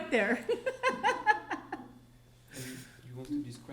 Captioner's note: laughing